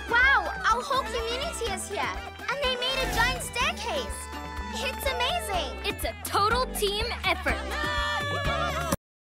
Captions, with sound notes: Wow, our whole community is here. And they made a giant staircase. - It's amazing. - It's a total team effort. (Cheering continues)